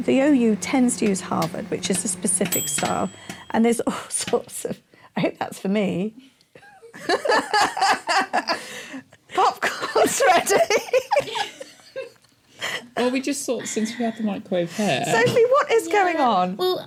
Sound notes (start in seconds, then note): 0.5 microwave chiming; 9.6 laughing